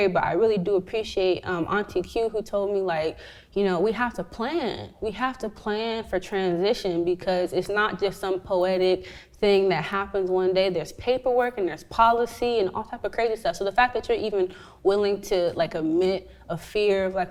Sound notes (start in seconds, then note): none